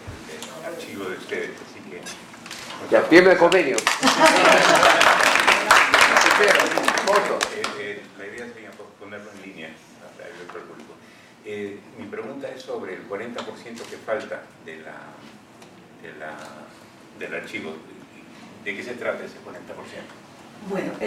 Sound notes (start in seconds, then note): 3.4 aplausos; 4.0 risas